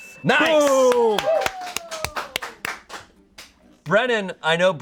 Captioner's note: bell dings; audience applauding